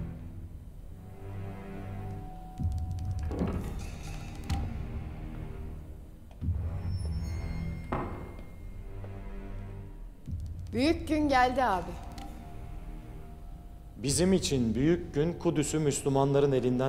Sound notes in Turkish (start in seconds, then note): 3.1 Kapı açılma sesi; 6.9 Kapı gıcırtısı sesi; 7.6 Kapı kapanma sesi